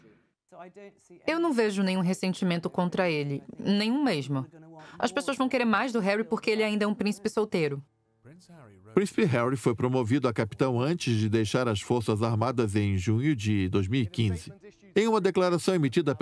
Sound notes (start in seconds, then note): 8.0 voiceover